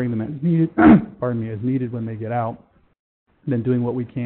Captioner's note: clears throat